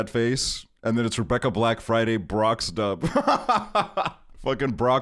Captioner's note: laughs